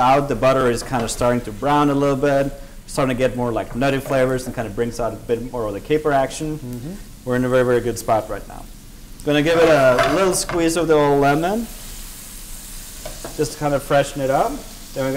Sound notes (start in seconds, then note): 11.7 sizzling